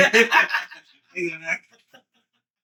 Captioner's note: laughing